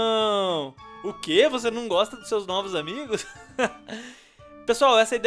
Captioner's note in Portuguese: Risos